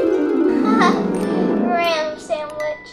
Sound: laughs

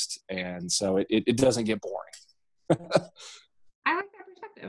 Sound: laughing

